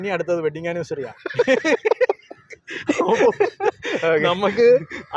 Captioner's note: laughing